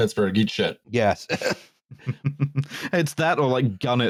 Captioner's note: laughs